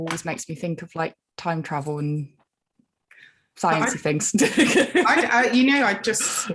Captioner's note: laughing